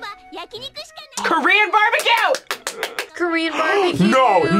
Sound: claps

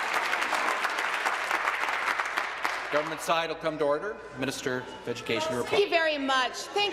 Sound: applause

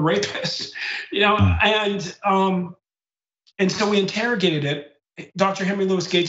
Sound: laugh

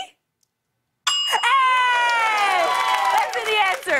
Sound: ding!

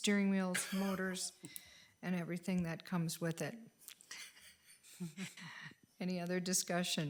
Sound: chuckles

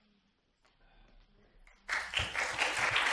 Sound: applause

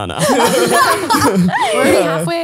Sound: both laughing

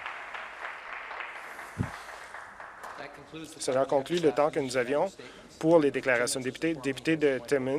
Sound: some Applause

